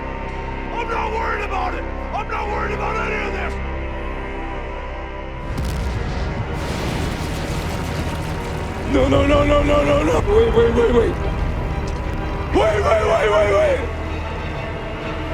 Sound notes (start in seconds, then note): 5.4 impact and breaking open wave; 7.2 ooey gooey water flooding noises